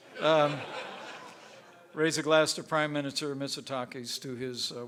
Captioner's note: laughter; laughs